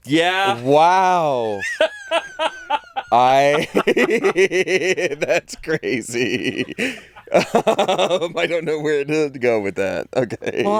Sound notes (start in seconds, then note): 1.5 laughing; 4.0 laughs; 7.3 laughs